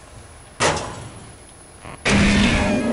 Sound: gunshot

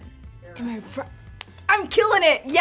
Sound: bell chimes

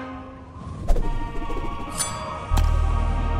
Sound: wooshing

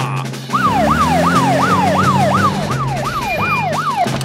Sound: siren wailing

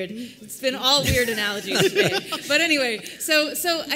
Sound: laughter

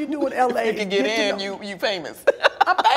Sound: laughs

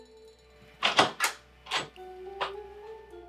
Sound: door opening

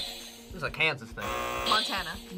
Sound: buzzer; buzzer rings

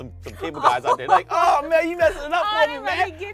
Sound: laughing

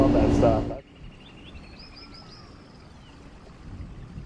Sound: birds chirping

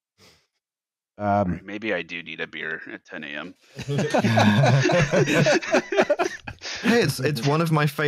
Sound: laughter

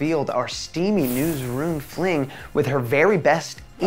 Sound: pan sizzling

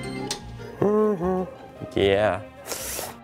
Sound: humming

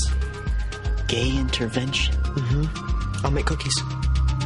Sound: greg hums in agreement

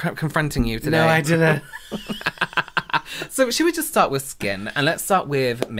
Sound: laughter

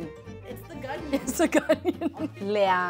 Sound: laughs

